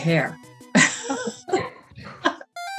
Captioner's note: laughs